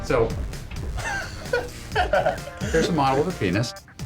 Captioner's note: laughing